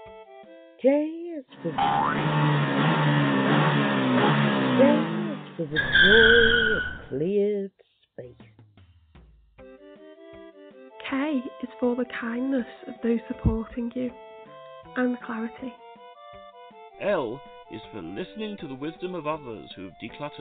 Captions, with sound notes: J is for... *boing* *engine noises* ...J is for the joy of cleared space. K is for the kindness of those supporting you, and for "klarity". L is for listening for the wisdom of others who have decluttered,